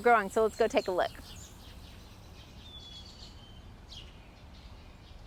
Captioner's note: birds chirping